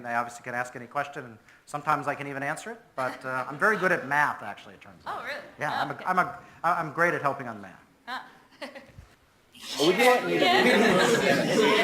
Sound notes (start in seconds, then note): 3.6 presenter and audience laughs